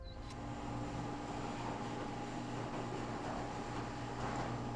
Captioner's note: garage door whirring